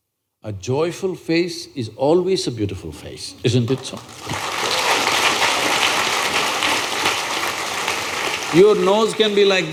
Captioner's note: applause